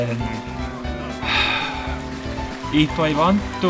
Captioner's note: sigh